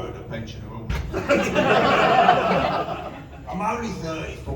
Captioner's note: laughter